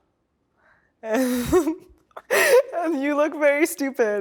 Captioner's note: laughs